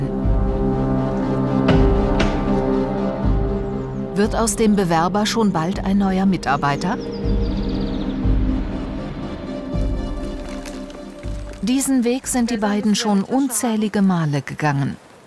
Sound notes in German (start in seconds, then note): 0.3 Angespannte Musik; 7.3 Vogelzwitschern